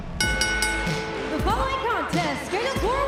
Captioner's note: bell